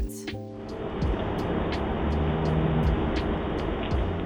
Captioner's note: street noise